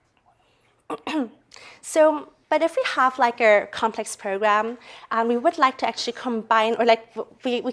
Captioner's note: cough